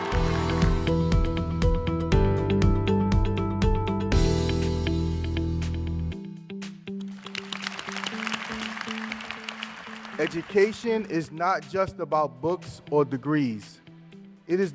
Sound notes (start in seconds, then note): 0.0 cheers and applause; 7.1 applause